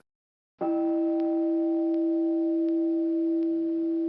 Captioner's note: meditation chime